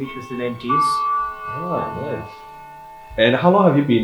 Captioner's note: bell tolls